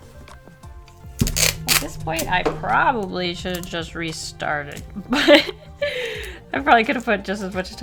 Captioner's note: laughs